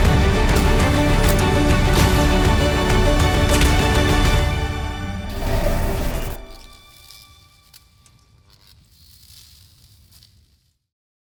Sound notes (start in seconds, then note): 7.1 electric buzzing